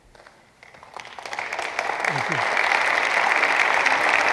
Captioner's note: applause